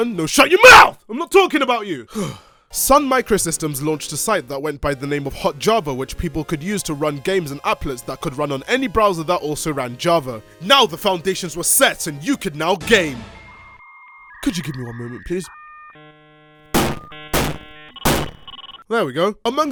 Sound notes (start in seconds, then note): 2.1 sigh